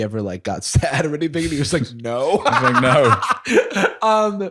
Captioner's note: laughs